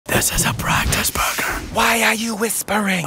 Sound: whispering

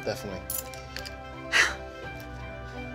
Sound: keys clinking; Alex laughing

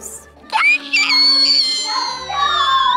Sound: screaming

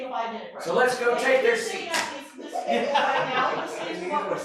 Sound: laughter

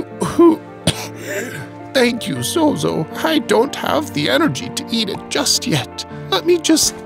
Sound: cough wheeze

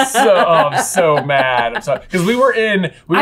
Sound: laughter

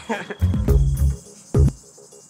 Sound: chuckles

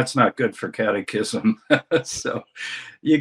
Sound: laughs

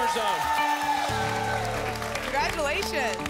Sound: applause and cheering

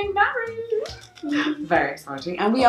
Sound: clapping

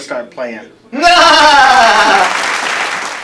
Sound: laughter

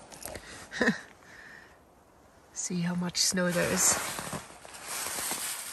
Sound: laughs

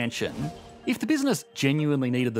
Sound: air whooshing

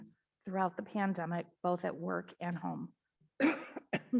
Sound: coughs

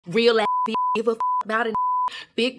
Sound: beep

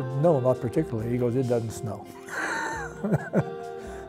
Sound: laughs

